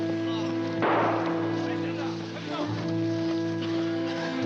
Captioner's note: gunshot